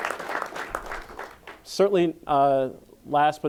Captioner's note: applause